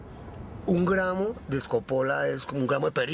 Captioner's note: speaking foreign language